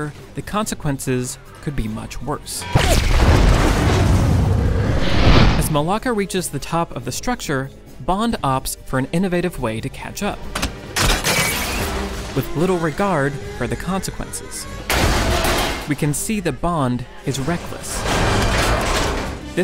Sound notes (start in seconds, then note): 2.8 bomb exploding